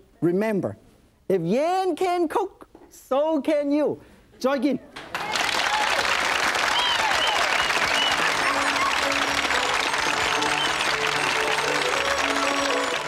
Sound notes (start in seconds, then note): 5.0 audience clapping; 7.4 joyful music